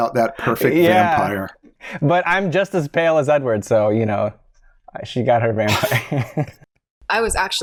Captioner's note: chuckles